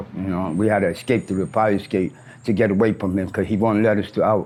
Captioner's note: brakes squeal